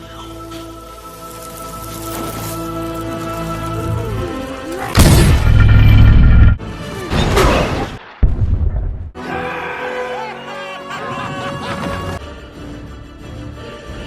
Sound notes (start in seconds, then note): 9.2 cheering